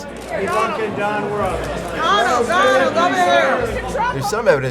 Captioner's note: people shouting